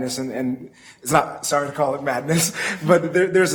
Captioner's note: laughs